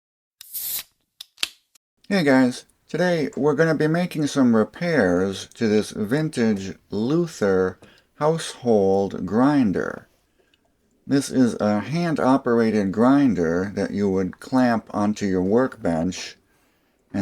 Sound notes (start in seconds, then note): 0.5 beer opening sound